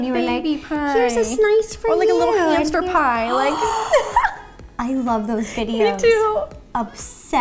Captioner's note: giggles; gasp